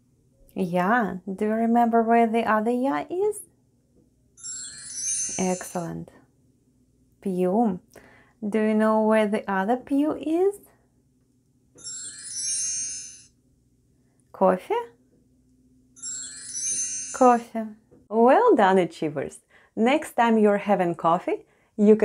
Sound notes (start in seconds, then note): 4.4 chime sound; 11.8 chime sound; 16.0 chime sound